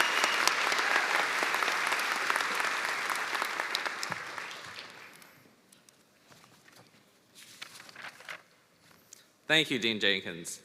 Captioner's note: cheers and applause